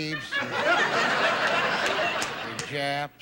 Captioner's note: audience laughing